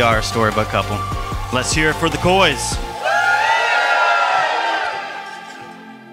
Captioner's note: audience cheering; dramatic music